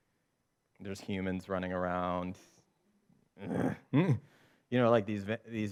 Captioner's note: growling